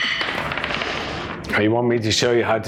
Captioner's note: items clattering